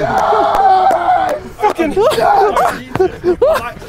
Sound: men laughing

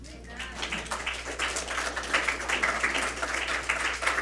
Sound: audience clapping

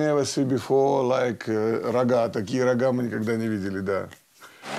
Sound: Russian spoken audio

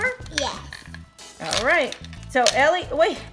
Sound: voiceover

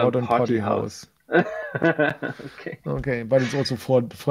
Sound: laughs

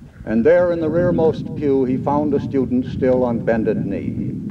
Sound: none

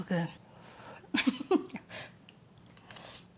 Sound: blowing, laughing

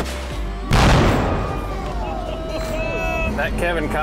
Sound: explosion

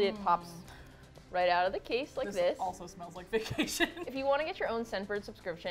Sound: laughs

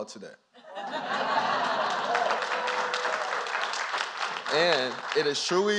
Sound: applause

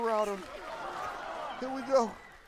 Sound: laughter

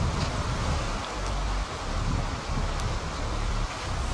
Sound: river rumbling

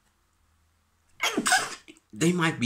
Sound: cute sneeze

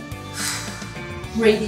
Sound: exhales

